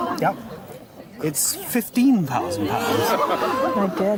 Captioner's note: crowd gasps